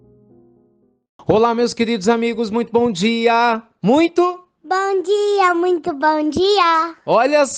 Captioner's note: child's voice